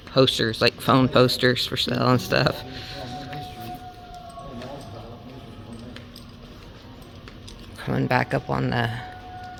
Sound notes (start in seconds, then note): 3.2 eerie howling, voices, footsteps